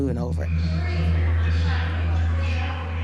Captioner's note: chatter